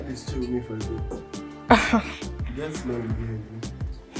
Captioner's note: laughs